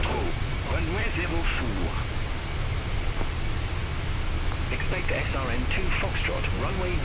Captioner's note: radio chatter